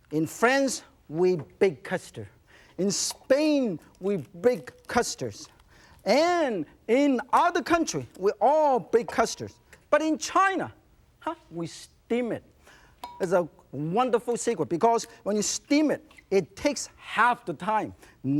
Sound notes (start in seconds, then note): none